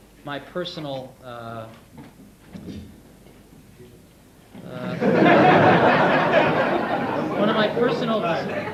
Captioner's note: audience laughing